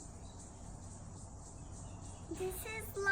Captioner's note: birds and insects chirring